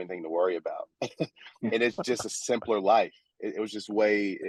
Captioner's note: chuckle